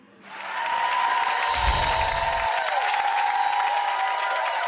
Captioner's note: crowd cheering